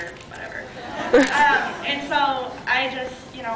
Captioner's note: scattered laughs